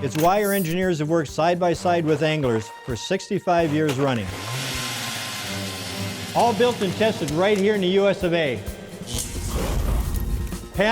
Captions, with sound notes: It's why our engineers have worked side-by-side with anglers for 65 years running. (drilling) All built and tested right here in the USA.